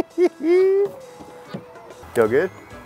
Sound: laughs

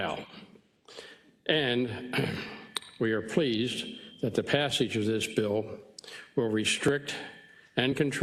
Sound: cough

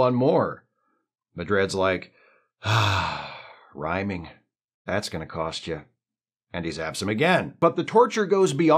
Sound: sigh

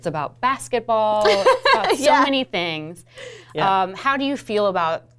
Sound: laughs

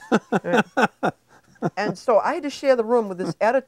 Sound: chuckling

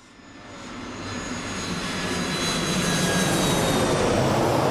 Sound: jet engine roars

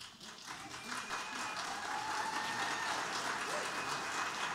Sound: audience applauding

